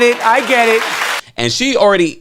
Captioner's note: crowd clapping